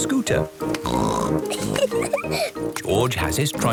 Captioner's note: snorts, giggles